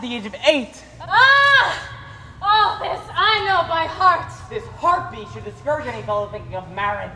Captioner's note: exclamation